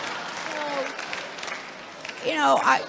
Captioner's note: applause